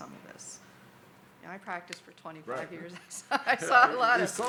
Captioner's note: chuckles